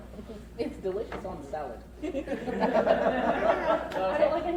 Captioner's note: crowd laughs